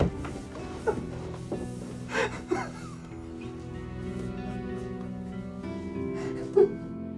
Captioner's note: somber music; Jack crying